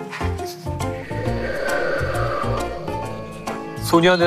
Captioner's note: A sound effect of wind